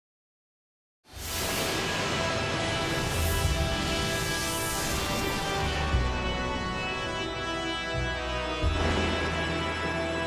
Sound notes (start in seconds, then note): 1.2 graphics whooshing; 7.0 ceremonious music